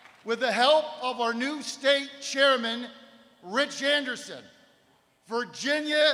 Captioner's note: applause